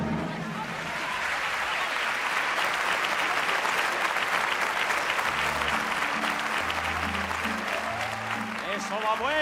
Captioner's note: applause